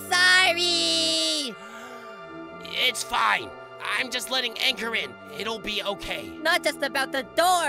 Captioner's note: deep inhale